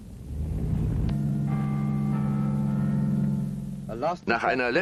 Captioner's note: bells ringing